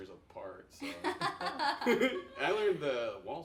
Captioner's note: laughing